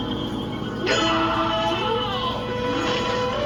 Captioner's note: screaming